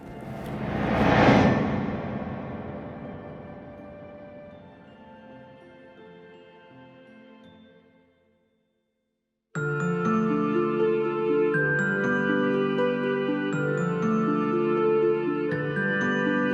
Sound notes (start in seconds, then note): 0.0 memory image whooshes; 3.1 gentle music; 9.6 bright music